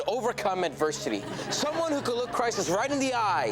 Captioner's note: audience laughs